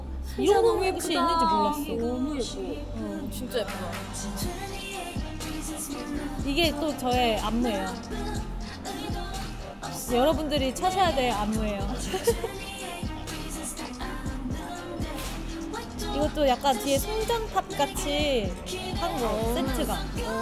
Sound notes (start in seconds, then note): 11.8 chortle; 11.8 laughing